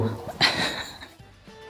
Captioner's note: laughing